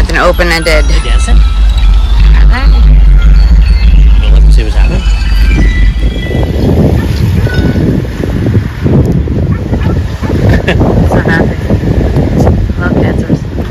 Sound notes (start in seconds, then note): 6.6 laughing